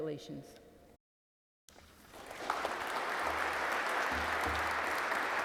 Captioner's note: audience clapping